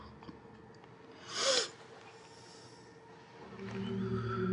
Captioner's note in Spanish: Respira profundamente